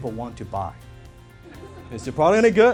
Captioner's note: people laughing